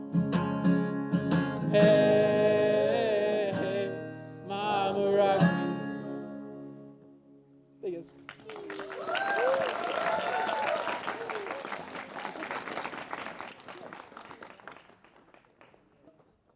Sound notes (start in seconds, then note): 0.8 guitar music; 8.8 applause; 14.6 applause